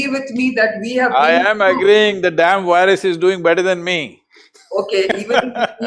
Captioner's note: laughs